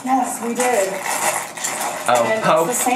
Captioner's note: packaging crinkling